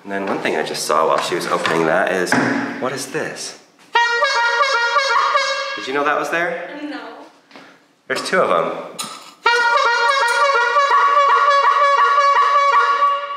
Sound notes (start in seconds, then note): 3.9 horn hooting; 9.4 horns hooting